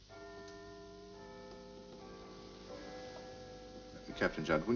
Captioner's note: clocktower bell ringing